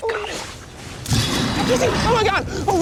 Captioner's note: animal growls